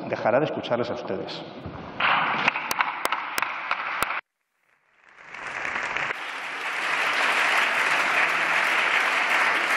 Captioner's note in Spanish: Aplausos